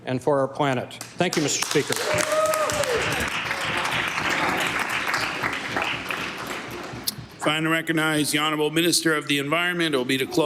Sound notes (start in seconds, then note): 7.5 applause